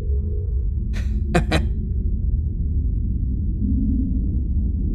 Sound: Jaymee laughing

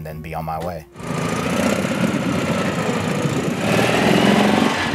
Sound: car engine puttering

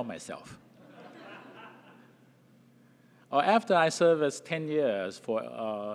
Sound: laugh

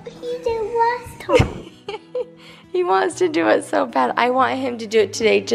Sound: chuckles

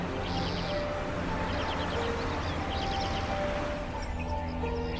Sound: birds chirping

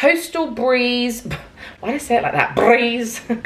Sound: scoffs

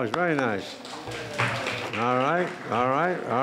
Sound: applauding

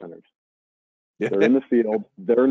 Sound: chuckles

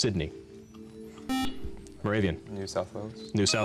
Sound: beep

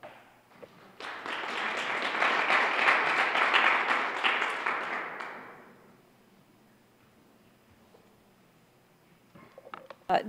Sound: applause

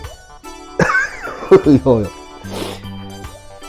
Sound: laughs

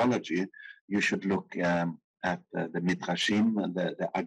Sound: speaking in foreign language

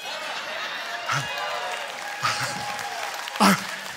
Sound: congregation laughing; congregation cheering and applauding

